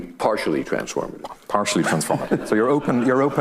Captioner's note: audience laughing